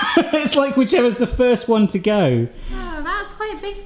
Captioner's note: laughs